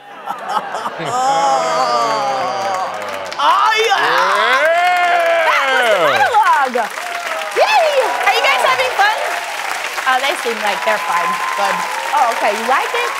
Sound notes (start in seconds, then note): 0.0 laughter; 9.6 applause